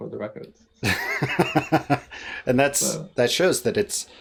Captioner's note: laughs